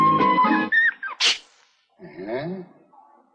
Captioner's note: Poochie sneezes